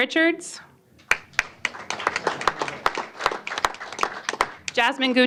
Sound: applause

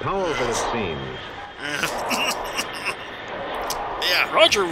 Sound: Starch clears his throat repeatedly

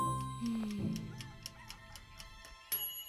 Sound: clock ticking; rooster crowing; dinging

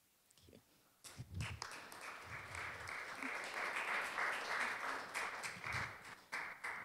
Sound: applause

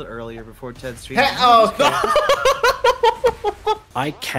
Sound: laughing in disbelief

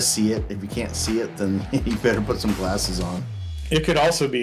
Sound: he chuckles

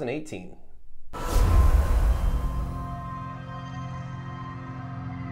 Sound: dramatic sound effects

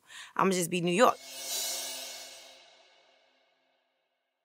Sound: loud whooshing

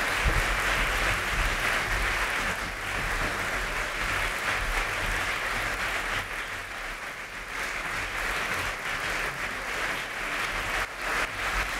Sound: applause

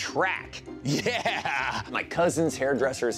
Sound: laughs

